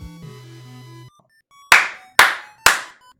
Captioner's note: clapping